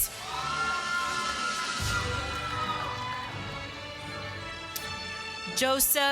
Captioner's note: applause